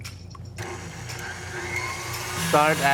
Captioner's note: mixer hums